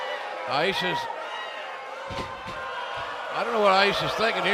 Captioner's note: cheers and boos